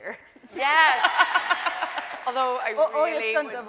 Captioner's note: audience cheering